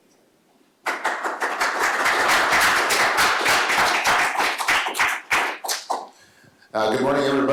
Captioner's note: applause